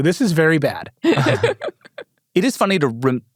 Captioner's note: laughs